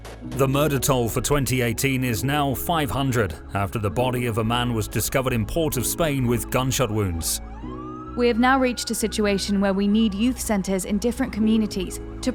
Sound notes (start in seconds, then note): 7.2 sirens blaring